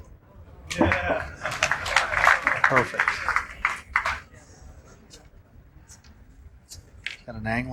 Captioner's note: applause